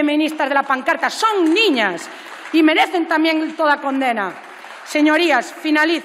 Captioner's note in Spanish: Aplausos